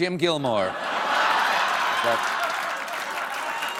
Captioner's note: laughter; applause